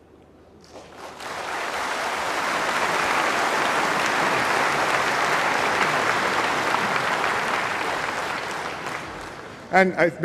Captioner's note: applause